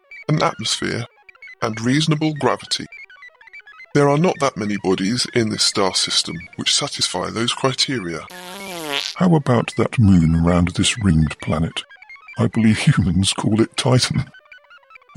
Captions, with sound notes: an atmosphere, and reasonable gravity. There are not that many bodies in this star system which satisfy those criteria. [passing wind] How about that moon round this ringed planet? I believe humans call it "Titan"